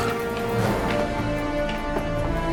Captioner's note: growls